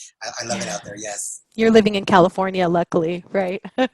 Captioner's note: laughs